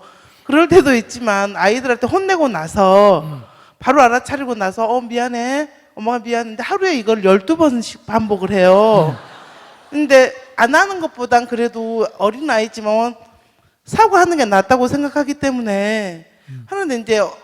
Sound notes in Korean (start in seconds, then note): 8.8 청중 웃음